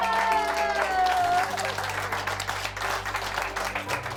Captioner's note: applause; cheering